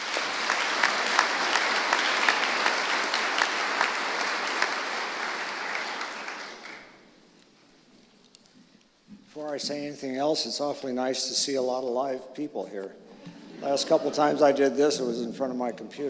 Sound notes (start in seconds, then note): 2.0 applause